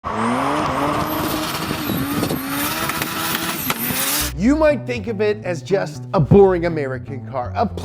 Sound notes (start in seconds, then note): 0.0 engine revving; 2.4 engine roaring